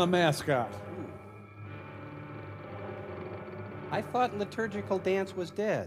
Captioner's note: creaking